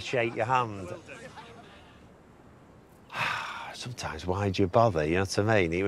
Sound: sighs

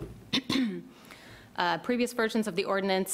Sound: clears throat

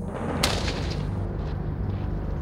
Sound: gun fires

